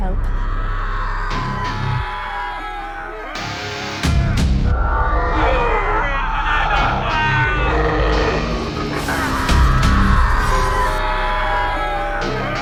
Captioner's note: distorted screaming